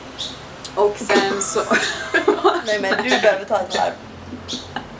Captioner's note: laughs